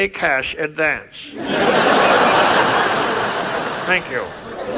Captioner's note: audience laughs